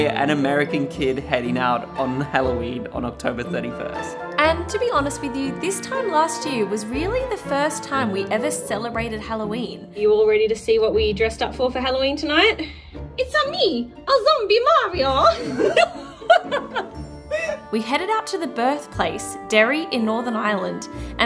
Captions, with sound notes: an American kid heading out on Halloween on October 31st. - And to be honest with you this time last year was really the first time we ever celebrated Halloween. You all ready to see what we dressed up for Halloween tonight? It's-a me, Zombie Mario. (both laugh) We headed out to the birthplace, Derry in Northern Ireland,